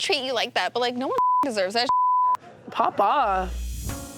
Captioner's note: beep